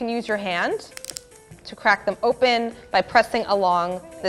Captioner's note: nut cracks